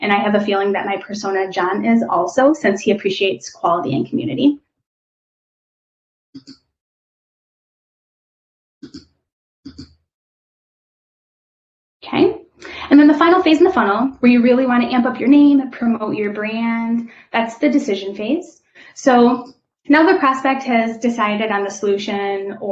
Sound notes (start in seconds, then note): 6.4 keyboard clicking